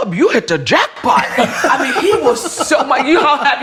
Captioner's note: all laughing